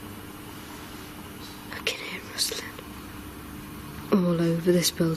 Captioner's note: whispering